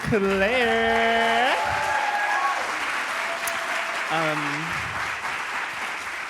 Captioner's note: applause